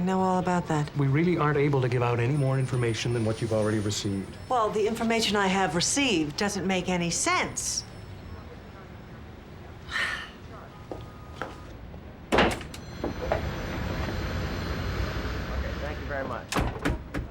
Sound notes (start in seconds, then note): 9.8 sighs